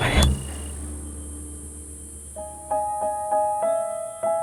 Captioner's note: insect chirping; subdued piano music